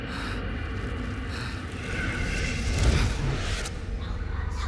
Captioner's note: crackling and hissing